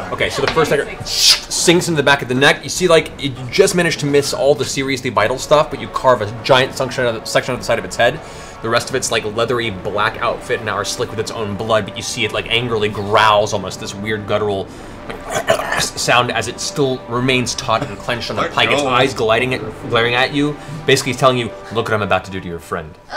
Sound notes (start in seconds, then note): 1.5 shnk; 15.2 gurgling growl